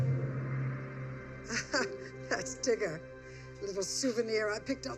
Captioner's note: laughs